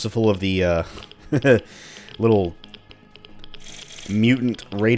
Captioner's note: chuckles